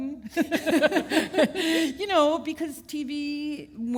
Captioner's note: chuckle